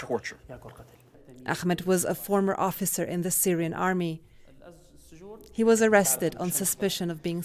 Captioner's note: voice-over